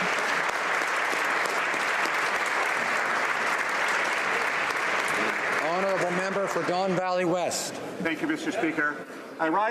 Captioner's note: applause